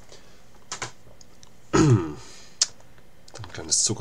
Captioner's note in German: harrumph